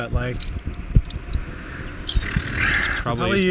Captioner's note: blows raspberry